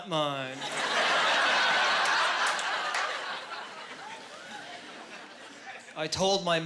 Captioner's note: laughing